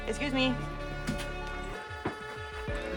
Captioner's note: door closes